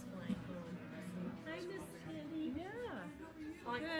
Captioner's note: people conversing